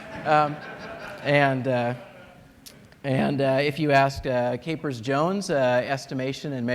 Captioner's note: laughter